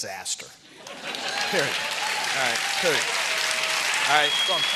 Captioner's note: applause